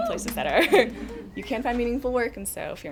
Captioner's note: audience chuckles